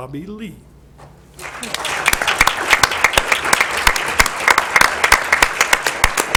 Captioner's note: applause